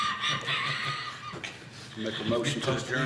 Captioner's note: all laughing